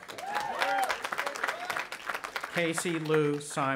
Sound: audience applauding and cheering

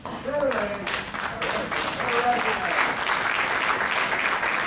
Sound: crowd clapping

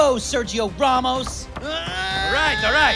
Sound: shouting

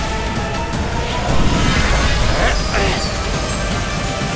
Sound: whooshing sound

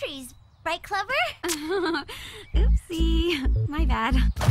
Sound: giggles nervously

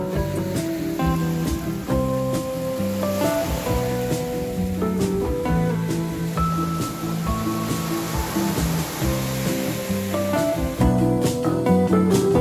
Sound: wave sound

